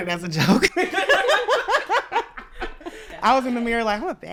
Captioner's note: all laughing